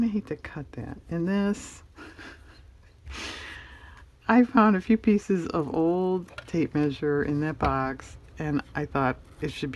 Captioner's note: laughs